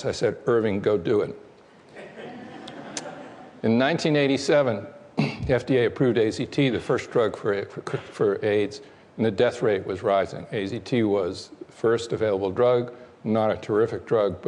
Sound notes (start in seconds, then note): 1.9 laughter